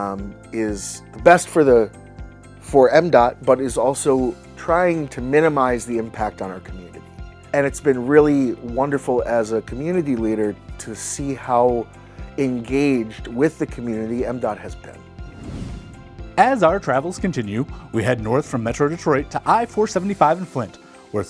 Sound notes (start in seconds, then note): 15.2 swoosh SFX